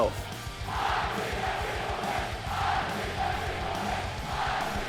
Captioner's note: crowd loudly chanting